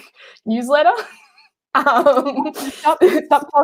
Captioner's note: laughing